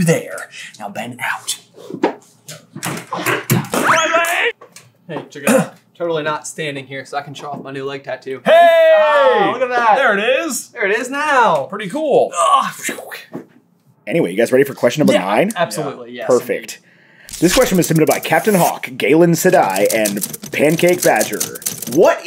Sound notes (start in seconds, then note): 3.1 thumping